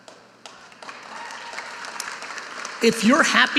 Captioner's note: audience applauding